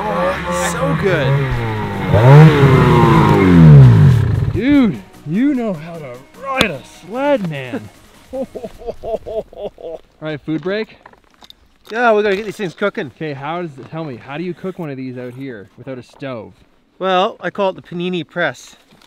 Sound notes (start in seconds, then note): 1.8 engine rumbling; 8.2 laughs